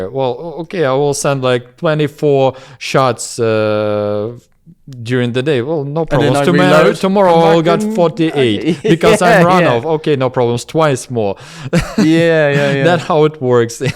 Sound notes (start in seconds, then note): 9.6 laughs; 11.7 laughs